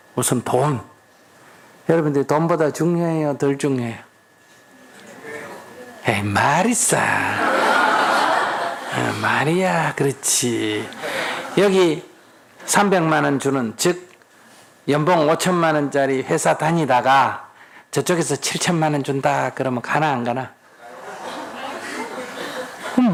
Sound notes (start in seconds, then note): 7.2 audience Laugh